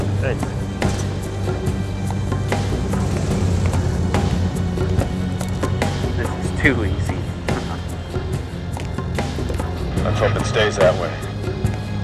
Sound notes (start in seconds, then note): 1.8 tense music; 9.0 chuckles